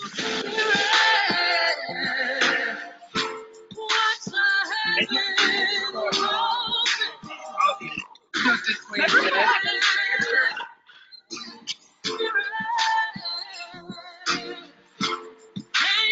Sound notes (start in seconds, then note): 6.6 distant conversations